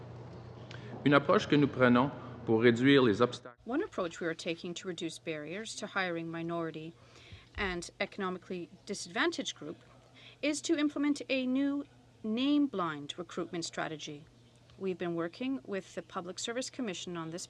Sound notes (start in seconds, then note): 4.4 speaking french